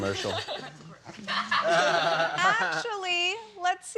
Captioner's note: laughter